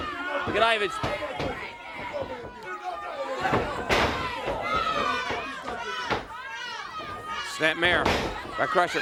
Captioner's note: crowd cheering